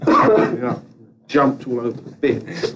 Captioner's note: laughs